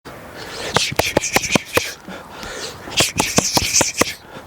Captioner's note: rhythmic breathing